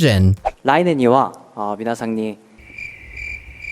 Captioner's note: speaking Japanese